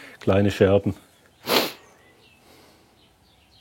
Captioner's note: sniffles